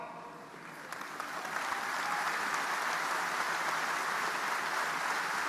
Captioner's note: audience applauding